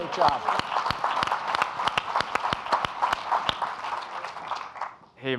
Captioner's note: audience applauding